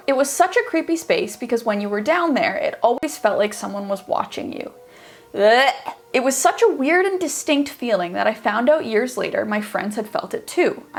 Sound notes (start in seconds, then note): 5.4 gagging